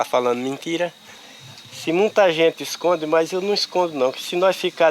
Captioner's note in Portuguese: Sons de insetos no mato